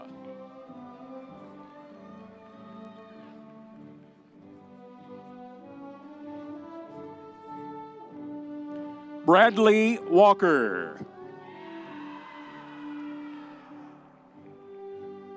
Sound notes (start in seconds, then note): 0.3 audience cheering; 11.3 audience cheering